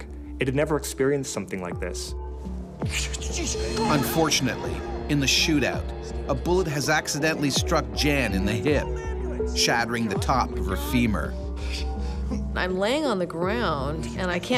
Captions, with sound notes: It had never experienced something like this. - [Voiceover] Unfortunately, in the shootout, a bullet has accidentally struck Jan in the hip. - [Voiceover] Call an ambulance! - [Voiceover] Shattering the top of her femur. - I'm laying on the ground and